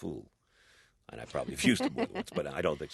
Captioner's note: soundbite of laughter